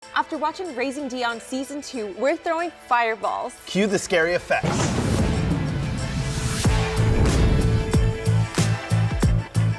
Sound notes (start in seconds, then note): 4.6 fire roaring; 5.8 upbeat music